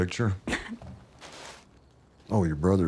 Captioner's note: chuckles